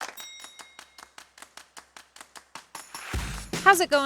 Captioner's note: ding; upbeat music